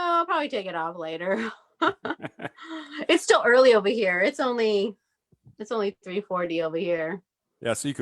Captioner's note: chuckles